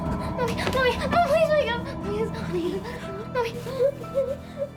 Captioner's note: sobbing